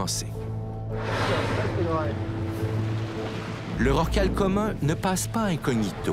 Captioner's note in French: souffle de la baleine